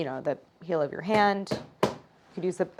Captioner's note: hammering